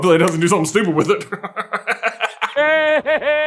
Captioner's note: laughs uproariously